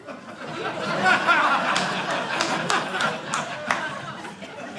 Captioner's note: audience laughing